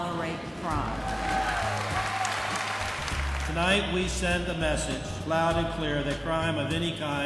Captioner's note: applause